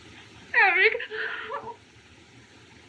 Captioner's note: sob